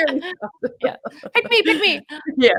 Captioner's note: laughs